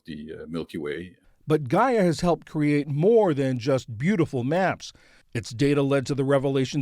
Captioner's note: voice-over